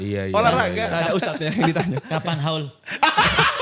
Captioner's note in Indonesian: tertawa